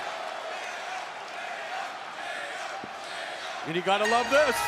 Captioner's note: crowd cheering